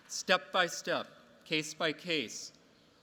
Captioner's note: none